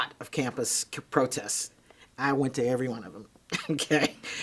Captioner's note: chuckles